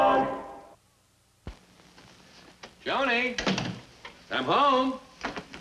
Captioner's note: door closes